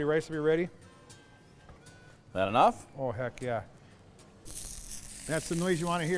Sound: sizzle

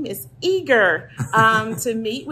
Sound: chuckle

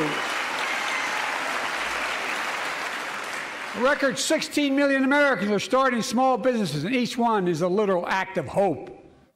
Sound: applause

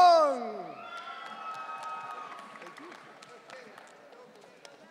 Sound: audience cheering

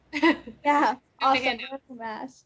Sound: laughing

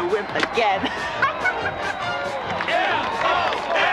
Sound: men grunting

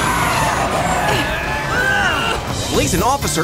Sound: straining

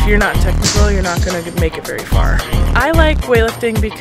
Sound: weights clanging; feet stomping

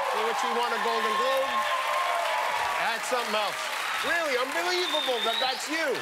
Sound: cheers and applause

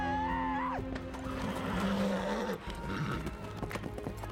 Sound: yells; horse neighs

